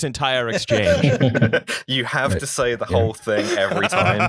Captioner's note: laughter